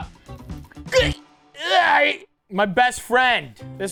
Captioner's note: Matty straining